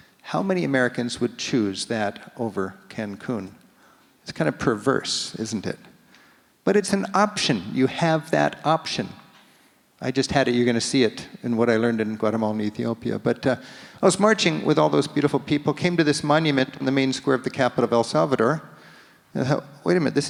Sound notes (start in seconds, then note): none